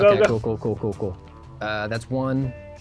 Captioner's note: pat